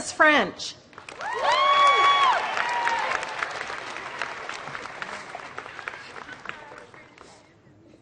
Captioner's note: applause